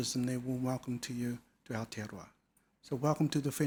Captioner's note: speaking foreign language